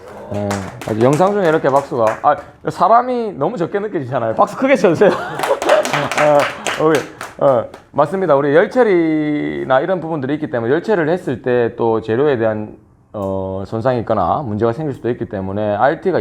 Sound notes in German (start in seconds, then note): 5.1 Applaus; 5.2 klatschen